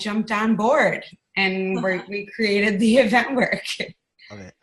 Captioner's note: laughing